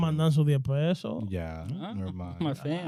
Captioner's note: speaking In Foreign Language